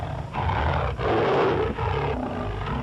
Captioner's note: growls